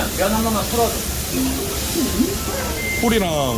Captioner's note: delivery order alarm